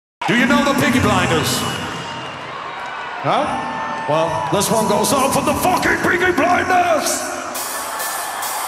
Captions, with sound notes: - Do you know the Peaky Blinders? (cheering) Huh, well this one goes out for the fucking Peaky Blinders!